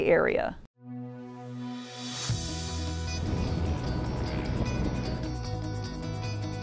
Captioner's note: pleasant instrumental music; airplane engine